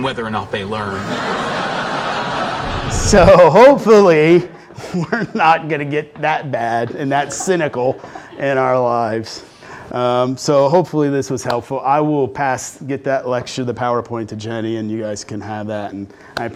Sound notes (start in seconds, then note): 0.8 laughter